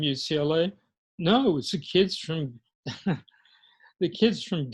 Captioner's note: laughs